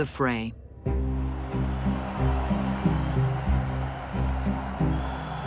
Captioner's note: crowds cheering